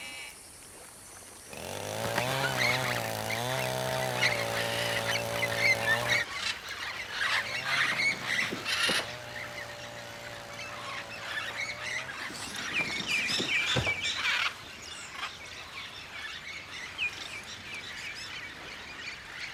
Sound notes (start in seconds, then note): 1.0 chainsaw buzzing; 3.0 birds screeching